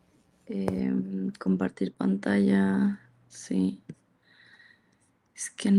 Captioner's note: speaks in Spanish